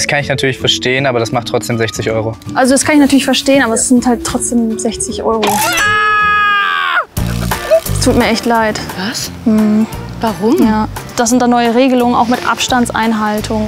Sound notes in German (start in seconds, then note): 5.4 schreit